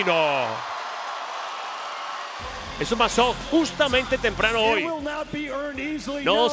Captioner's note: applause